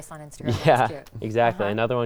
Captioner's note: laughing